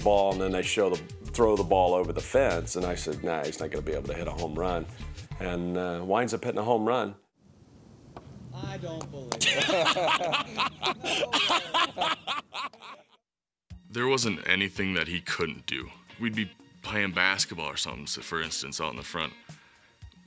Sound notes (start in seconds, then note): 9.3 laugh